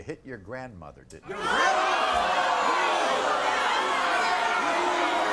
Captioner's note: audience groans